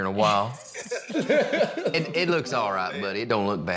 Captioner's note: everyone laughs